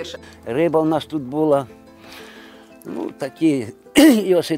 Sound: folksy guitar music; coughs

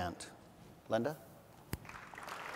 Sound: applause

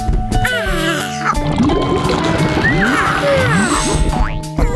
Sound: bubbling

